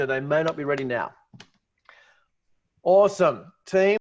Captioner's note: claps hands